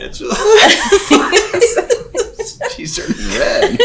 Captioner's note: laughing